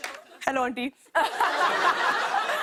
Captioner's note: laughter